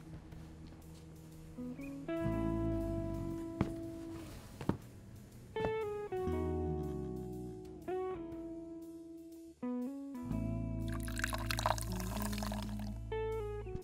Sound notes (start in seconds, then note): 3.3 footsteps; 10.9 bubbly champagne pours